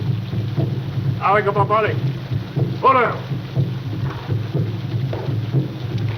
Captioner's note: man speaking in foreign language